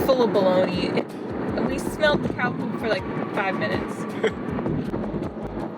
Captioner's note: haha